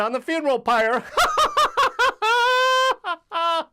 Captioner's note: laughs